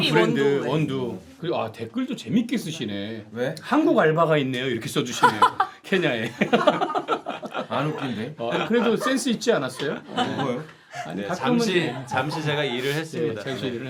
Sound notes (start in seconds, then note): 6.2 laughing